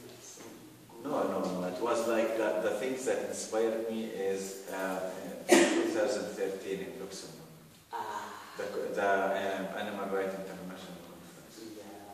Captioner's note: ahhh